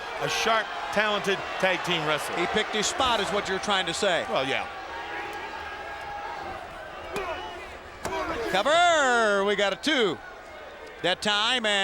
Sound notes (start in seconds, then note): 5.2 crowd chattering; 7.6 hand pounding